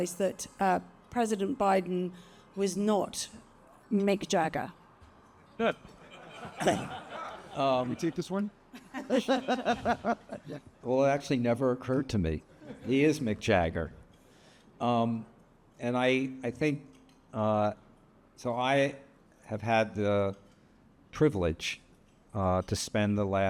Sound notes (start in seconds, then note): 5.7 attendees laughing; 8.8 laughs